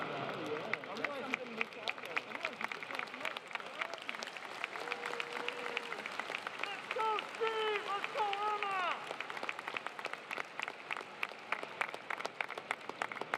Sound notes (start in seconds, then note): 4.1 applause